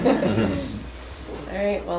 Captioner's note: laughing